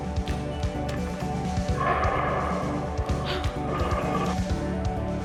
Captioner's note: lion roaring and woman gasping